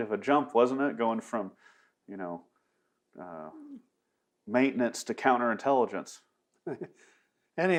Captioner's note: laughs